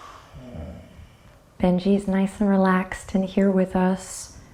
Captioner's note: sighs